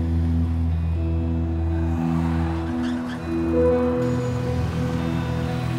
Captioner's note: tires screeching; engine rumbles to a stop